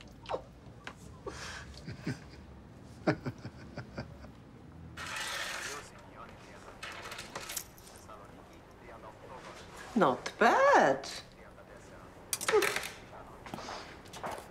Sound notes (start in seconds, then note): 1.0 chuckles